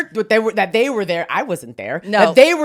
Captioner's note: laughs